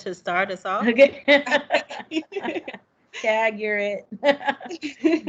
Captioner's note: laughs